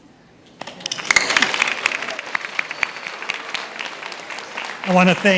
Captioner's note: attendees applauds